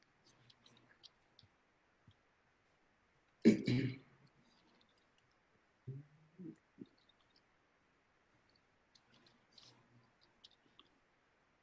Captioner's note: silence